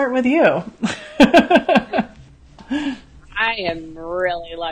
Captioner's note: laughs